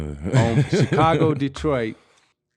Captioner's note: laughing